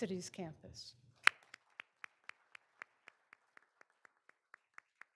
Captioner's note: all applauding